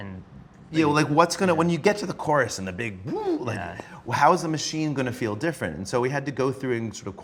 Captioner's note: flourish noise